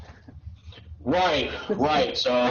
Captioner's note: chuckles